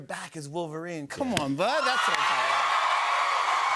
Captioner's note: cheers and applause